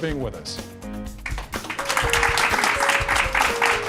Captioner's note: applause